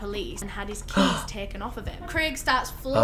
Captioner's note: gasps